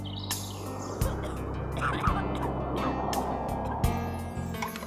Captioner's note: birds chirping; soothing music; coughing; soothing music